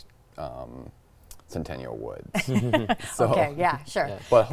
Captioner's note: chuckling